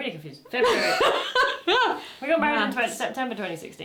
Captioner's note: laughter